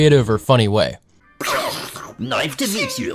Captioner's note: explosion mouth sound